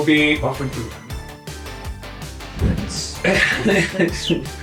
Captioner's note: laughing